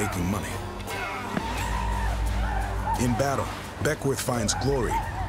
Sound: war cries

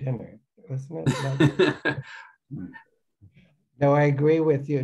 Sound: laughs

